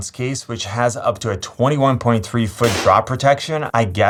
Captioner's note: phone thuds